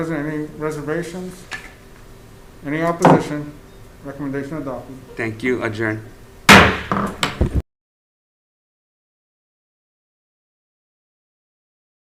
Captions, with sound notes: - 11 members present, any reservations? Any opposition? Recommendation adopted. - Thank you, adjourn. (gavel bangs)